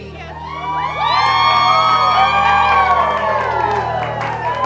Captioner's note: people cheering